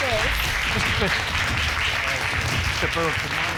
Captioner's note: audience applauding